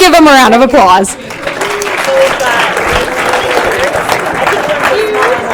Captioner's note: applause